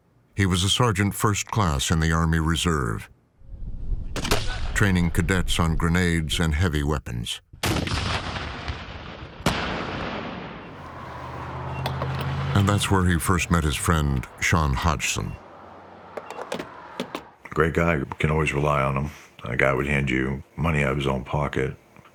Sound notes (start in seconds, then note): 4.1 fires; 7.6 fires; 7.6 explosion echoes